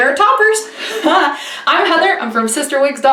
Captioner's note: laughing